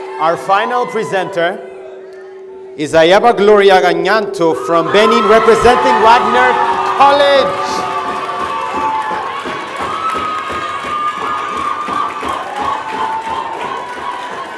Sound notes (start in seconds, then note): 0.0 cheering; 7.5 applauding; 7.5 cheering